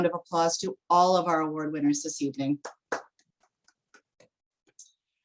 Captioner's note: clapping